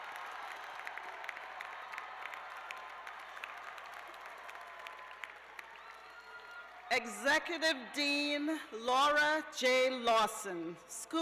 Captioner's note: cheers and applause